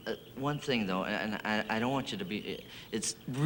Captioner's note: stammers